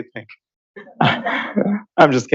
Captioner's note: laughter